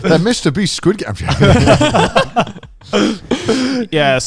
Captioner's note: speakers laughing